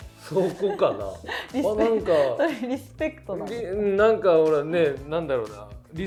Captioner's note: laughs